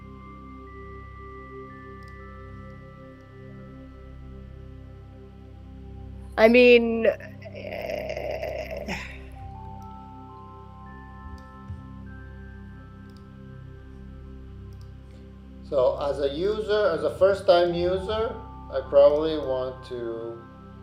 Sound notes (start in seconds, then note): 0.2 gentle calming music continues; 13.0 mouse clicking